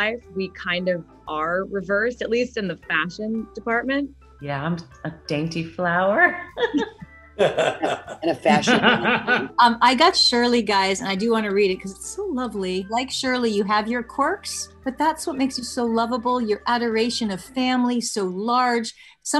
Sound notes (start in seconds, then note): 7.4 Kevin laughs; 7.4 Tony laughs; 7.4 laughs